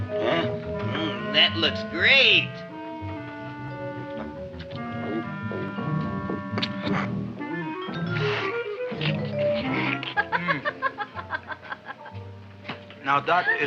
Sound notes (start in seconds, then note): 3.6 Audrey Jr. gulping; 9.3 Audrey laughing